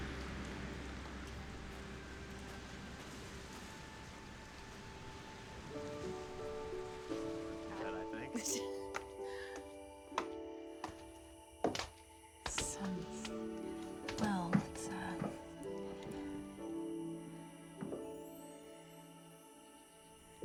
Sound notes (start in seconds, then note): 7.8 chattering; 9.9 footsteps